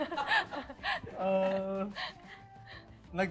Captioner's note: laughing